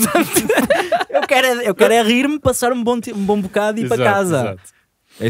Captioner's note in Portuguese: risos